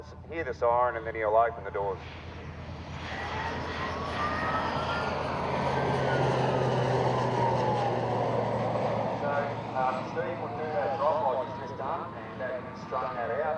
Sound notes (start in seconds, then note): 2.0 aircraft sounds and siren